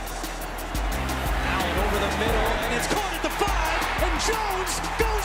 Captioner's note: cheers and applause